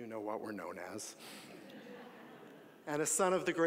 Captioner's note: audience laughing